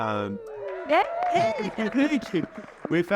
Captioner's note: audience applauding and cheering